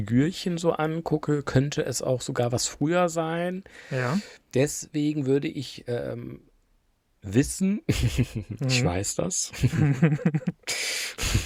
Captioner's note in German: gelächter